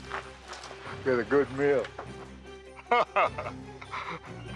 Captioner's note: laughs